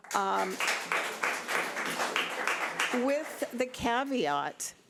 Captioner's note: audience applause